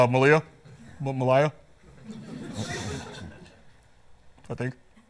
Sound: laughter

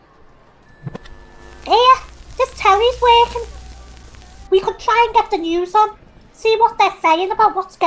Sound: TV Static

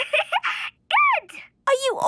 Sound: giggling

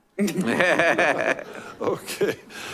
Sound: laughing

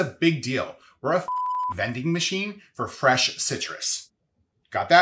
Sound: beep

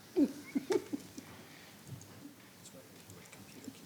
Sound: laughing

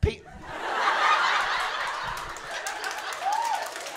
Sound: laughter

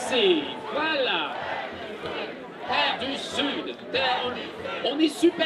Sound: crowd chants "Terra de Sud"

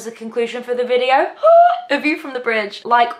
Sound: screams softly

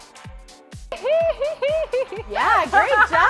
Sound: giggling

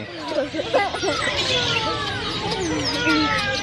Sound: kids laugh

